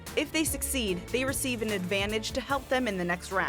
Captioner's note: none